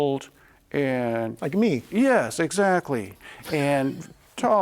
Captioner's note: laughs